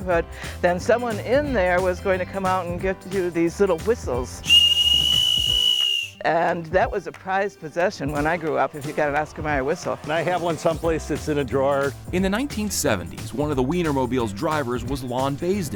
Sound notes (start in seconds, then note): 4.4 whistle blowing